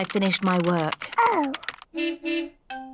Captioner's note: car horn beeps